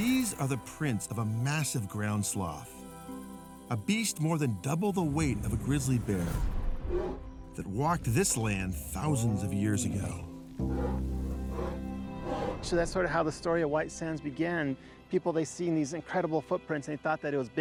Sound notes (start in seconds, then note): 12.1 sloth panting